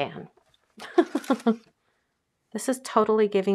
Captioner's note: laughs